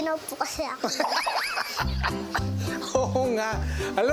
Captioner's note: laughing